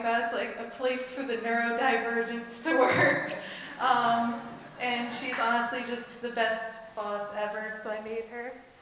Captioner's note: laughs